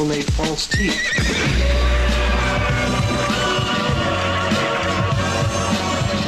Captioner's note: horse neighs, gun shot rings out